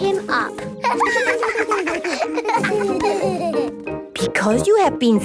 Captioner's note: laughter